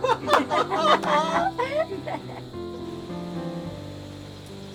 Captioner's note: both laughing